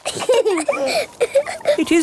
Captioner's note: both laughing